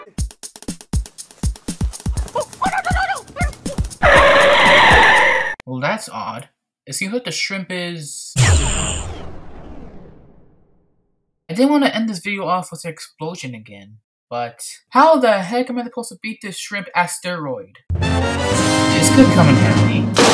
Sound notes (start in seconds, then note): 1.0 running sounds